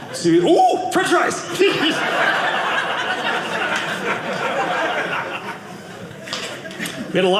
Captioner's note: audience laughing